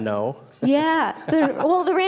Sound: laughing

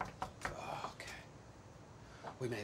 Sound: grunts; Meg knocks on door; grunts

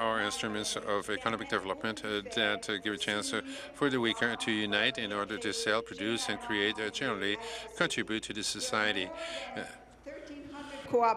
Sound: speaking French

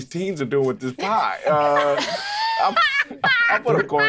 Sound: players laughing

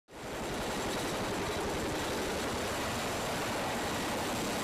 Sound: helicopter hovering

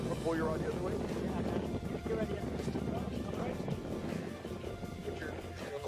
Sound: wind rumbling

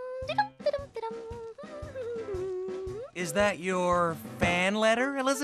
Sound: cheerful humming

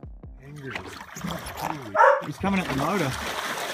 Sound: water splashing

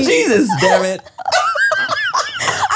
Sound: everyone laughs

